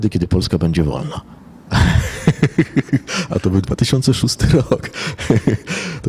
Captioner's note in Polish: śmiech